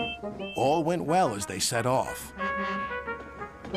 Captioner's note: toots whistle